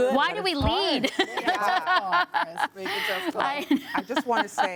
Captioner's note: laughter